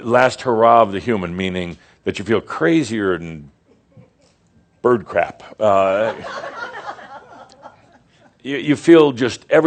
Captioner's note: some chuckles